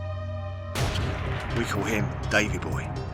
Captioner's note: dramatic noise